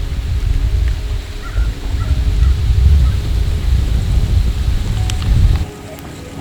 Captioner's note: sound of wind, birds calling